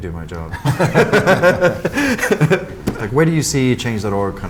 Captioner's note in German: beide lachen